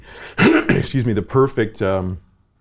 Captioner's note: coughing